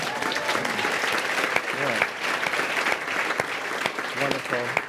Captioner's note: applause